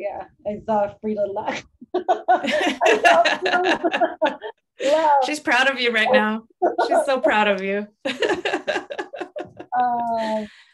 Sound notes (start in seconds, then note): 1.8 laughter; 8.0 laughter